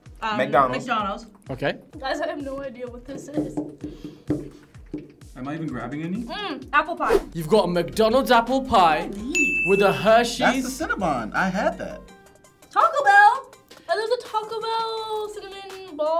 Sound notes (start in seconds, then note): 9.3 bell dings